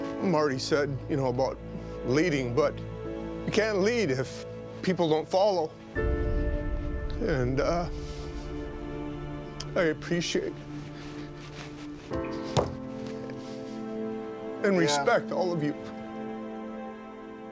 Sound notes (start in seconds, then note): 5.7 crying